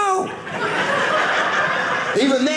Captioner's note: audience laughing